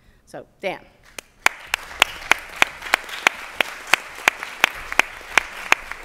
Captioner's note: applause